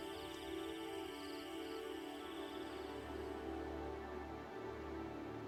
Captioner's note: crickets chirping; soft dramatic music continues